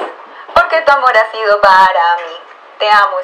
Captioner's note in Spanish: Sonido Transistor